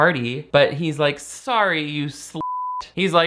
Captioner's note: beep